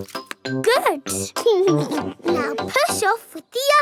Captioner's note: chuckles